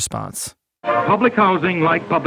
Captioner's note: soundbite of recording